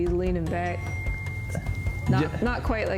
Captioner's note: call phone dings